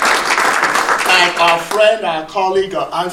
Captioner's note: audience applauding